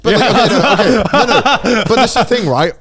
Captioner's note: laughing